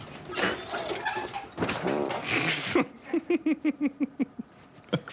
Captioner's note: sound of flatulence; laughter